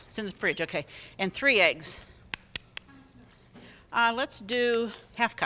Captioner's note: eggs cracking